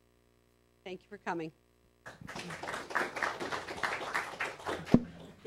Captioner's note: applause